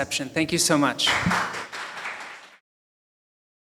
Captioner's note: audience applauding